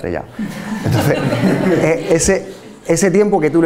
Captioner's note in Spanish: risas